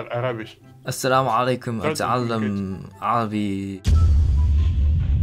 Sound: Arabic

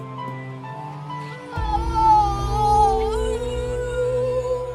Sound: scream

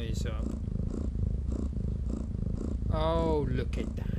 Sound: jess snoring sound

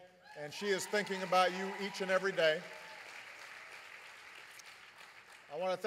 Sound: applause

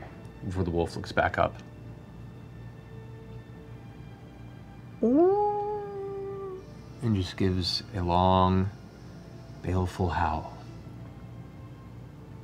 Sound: howls

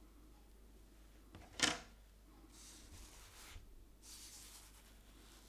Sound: brush scratching

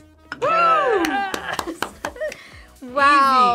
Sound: laughs

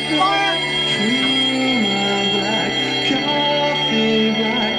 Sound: alarm bells ring

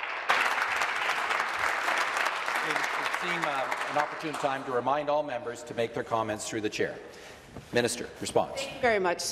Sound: applause

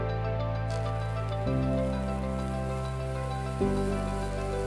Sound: galena sizzling; lively, pulsing music

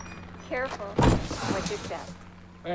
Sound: gate squeaking open; box thumping

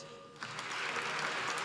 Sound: applause

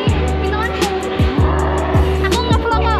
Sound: growls

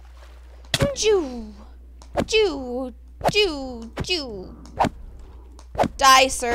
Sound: makes sound effects

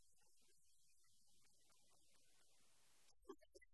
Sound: laughing

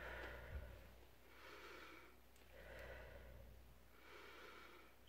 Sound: inhales then exhales; inhales then exhales

